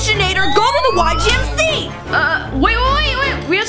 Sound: machine whistles

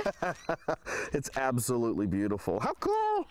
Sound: laughter

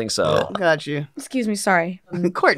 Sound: burping

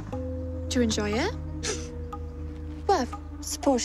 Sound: scoffs

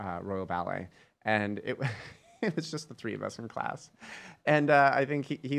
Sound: laughs

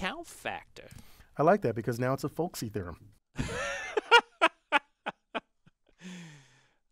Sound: laugh

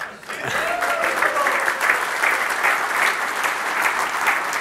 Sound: applause

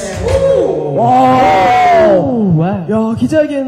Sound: exclaims; everyone exclaims

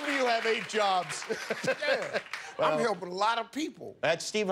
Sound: applause; laughter

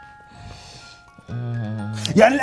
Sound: lullaby plays; groans

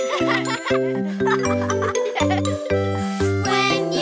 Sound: children laughing

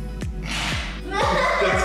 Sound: laugh

